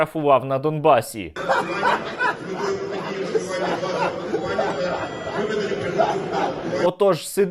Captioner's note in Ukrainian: сміх